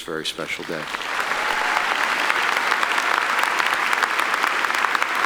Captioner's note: audience applauding